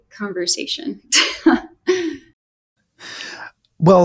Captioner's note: laughs